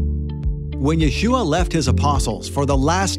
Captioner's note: male Voice